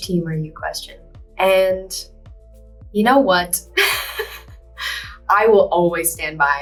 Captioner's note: laughs